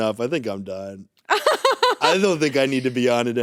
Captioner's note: laughs